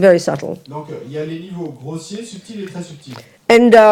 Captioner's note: audience member speaks in French